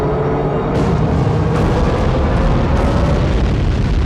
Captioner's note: booming